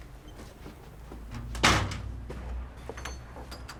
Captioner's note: door closes